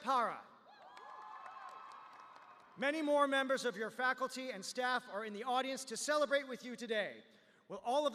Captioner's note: cheers